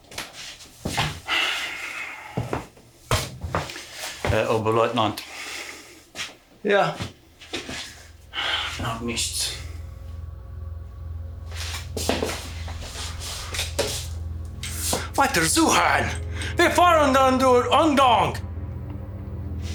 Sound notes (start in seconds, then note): 4.3 Koch speaking German; 7.9 ominous music; 15.2 Siegmund speaking German